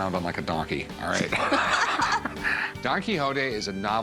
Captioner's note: all laugh